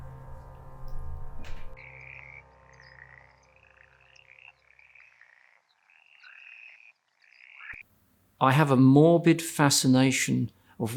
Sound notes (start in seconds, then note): 1.7 frogs croaking